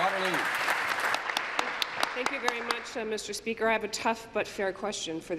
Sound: applause

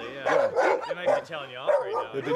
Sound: dogs bark

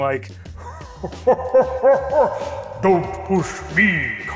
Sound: laughing hysterically

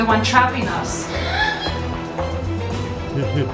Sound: gasps; evil laughing; suspenseful music

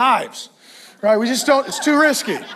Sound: congregation laughs

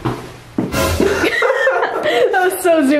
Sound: laughing

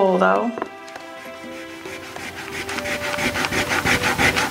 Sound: eraser rubbing

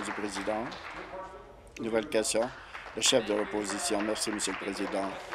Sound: applause

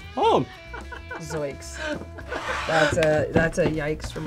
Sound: laughs

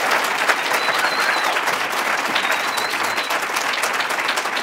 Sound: applause

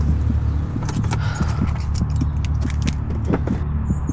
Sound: sighs

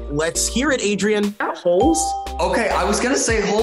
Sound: bell rings

